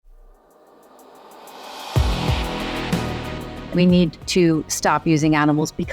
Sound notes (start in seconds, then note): 0.1 air whooshing; 2.0 downtempo music